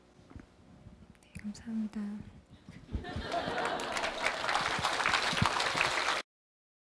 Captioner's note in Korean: 청중 박수